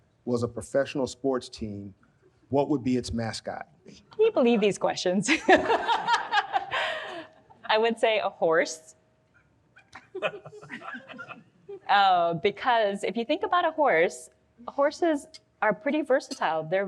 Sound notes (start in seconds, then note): 5.2 all laugh; 10.1 audience laughs